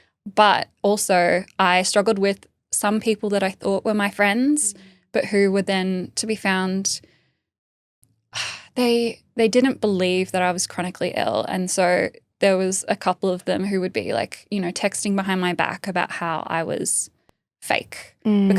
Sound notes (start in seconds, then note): 8.7 sighing